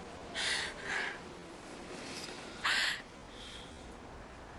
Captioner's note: Rebecca crying